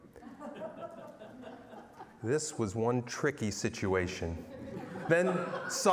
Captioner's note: laughter; laughter